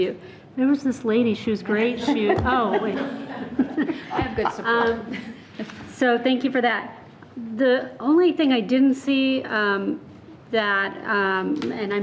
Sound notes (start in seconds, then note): 1.8 people laughing